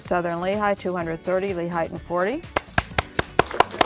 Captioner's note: applause; peppy theme music